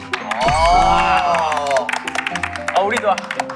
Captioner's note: applaud